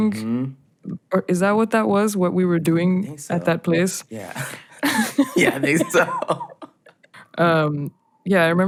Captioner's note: laughter